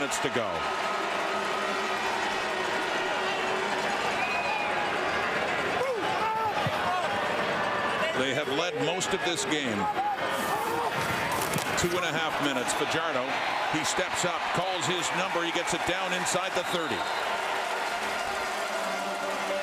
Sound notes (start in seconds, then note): 3.7 crowd Noise